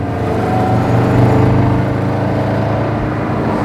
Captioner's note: turbo sound and rumble sound